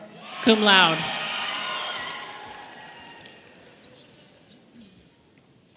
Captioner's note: audience applauding and cheering